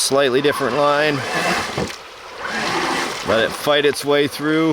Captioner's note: engine roaring